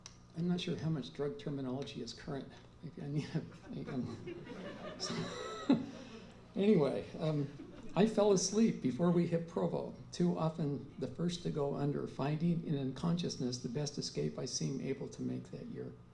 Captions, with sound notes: I'm not sure how much drug terminology is current. [laughter] Anyways. I fell asleep before we hit Provo. Too often, the first to go under, finding an unconsciousness, the best escape I seem able to make that year.